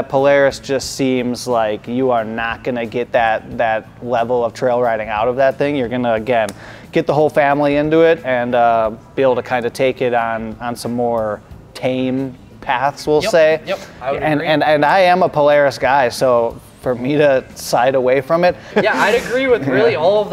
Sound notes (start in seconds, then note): 18.6 chuckles